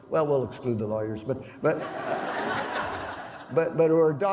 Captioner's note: laughter